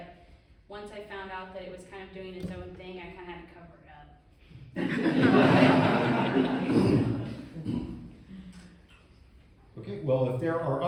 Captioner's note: laughing